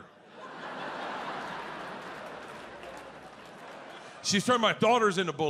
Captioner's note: audience laughs